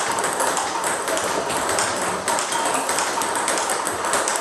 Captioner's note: ball ping pong hitting continues